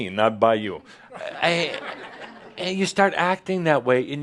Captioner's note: more chuckles